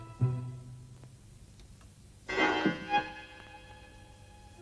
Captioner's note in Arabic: دقات الساعة; موسيقى بطيئة ومشوقة